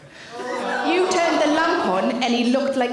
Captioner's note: audience member groan